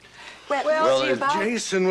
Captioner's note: actors chattering